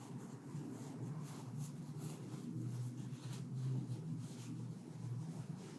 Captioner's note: microphone scuffles faintly